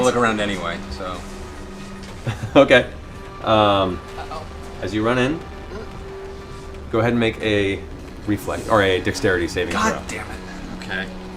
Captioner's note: laughs